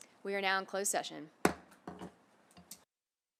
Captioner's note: gavel hitting dais